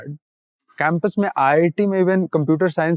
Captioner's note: speaking in Hindi